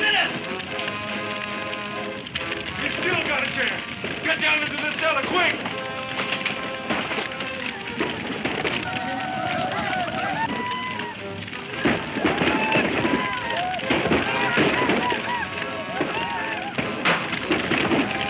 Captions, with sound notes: This powder will blow up any minute! We still got a chance, get down into the cellar quick! (men shouting)